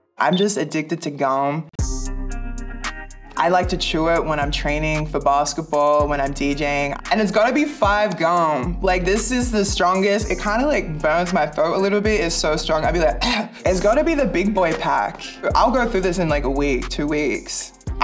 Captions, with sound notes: I'm just addicted to gum. I like to chew it when I'm training for basketball, when I'm DJing. And it's gotta be 5 Gum Like this is the strongest. It kind of like burns my throat a little bit, it's so strong. I be like [coughs] It's gotta be the big boy pack. I'll go through this in like a week, two weeks.